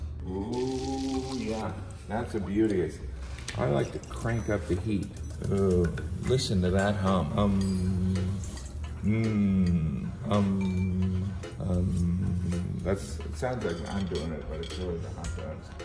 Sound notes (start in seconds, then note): 7.1 humming